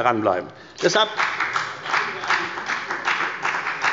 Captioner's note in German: Beifall bei der FDP